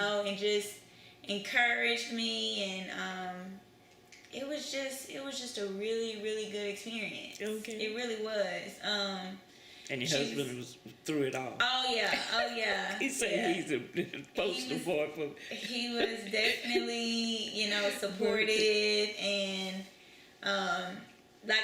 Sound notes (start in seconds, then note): 12.9 laughs